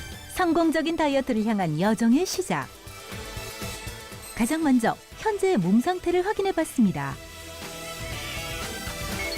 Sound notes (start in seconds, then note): 1.3 voiceover